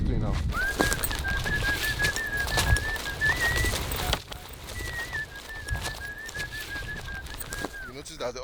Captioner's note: whistles